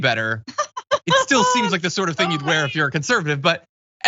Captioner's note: laugh